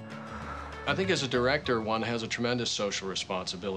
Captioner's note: exhales